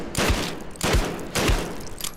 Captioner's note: bang; click